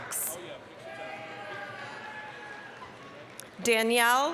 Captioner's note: applause, cheering